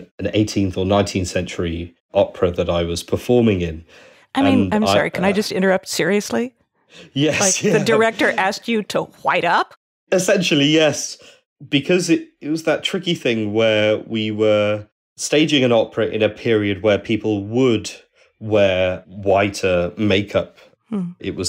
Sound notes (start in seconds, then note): 7.1 laughs